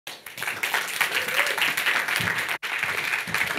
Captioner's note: audience applauding